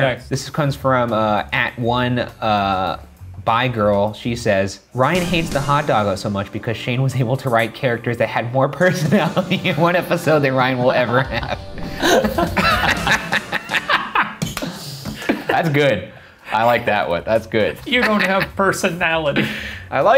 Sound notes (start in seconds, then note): 11.8 laughing